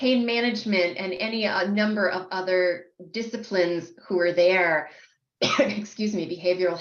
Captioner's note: coughs